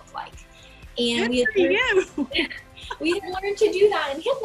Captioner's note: laughs